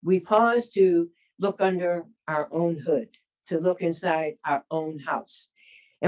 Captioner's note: none